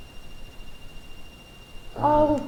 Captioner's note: beeping